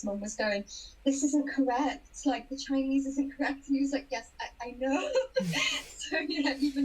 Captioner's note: both laugh